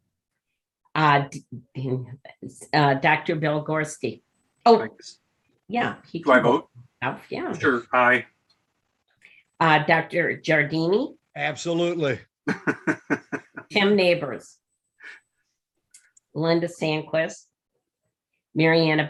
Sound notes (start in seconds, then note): 12.4 laughs